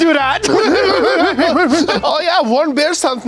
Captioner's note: both laugh